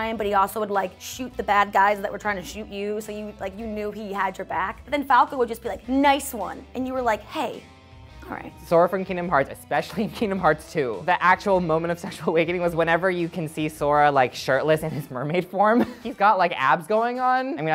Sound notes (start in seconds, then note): 15.7 laughs